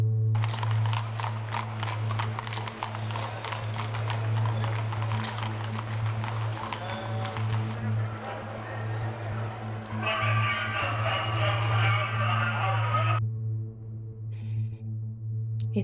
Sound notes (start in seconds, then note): 0.8 hooves clopping from patrolling horses; 8.0 sounds of a crowd; 10.0 police heard over speaker in the distance; 13.7 threatening ambient music